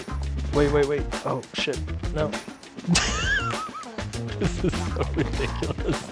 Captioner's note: laughing